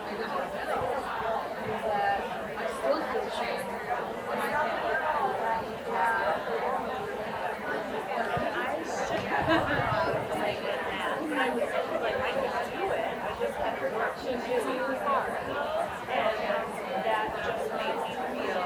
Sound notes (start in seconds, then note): 1.4 people chattering continues; 14.6 people chattering continues